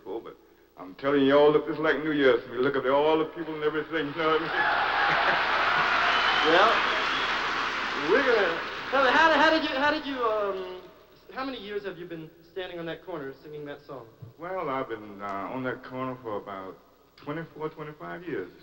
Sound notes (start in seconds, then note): 4.3 applause